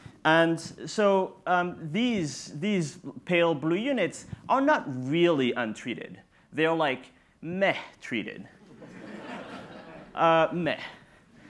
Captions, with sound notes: And so these pale blue units are not really untreated, they're like "meh" treated. (audience laughs) Meh.